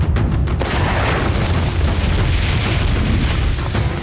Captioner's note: flames roaring; rocks crumbling